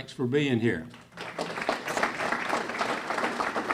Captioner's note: clapping